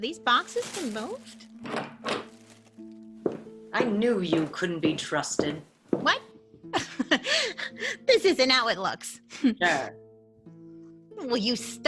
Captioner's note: door opens